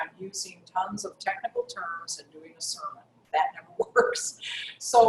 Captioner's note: laugh